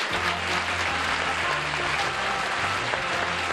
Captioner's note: applause; theme music